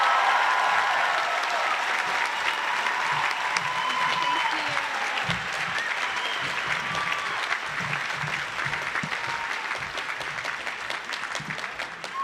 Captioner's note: applause